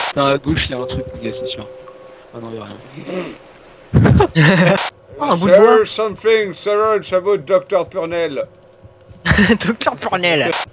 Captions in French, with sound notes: --Ah nan, y a rien [Rire] -"There's something strange about doctor Purnell" -Haha, "Doctor Purnell"